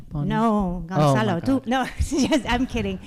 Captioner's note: spanish